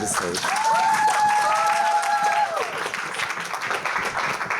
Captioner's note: cheers, applause